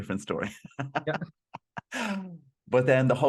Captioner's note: laughs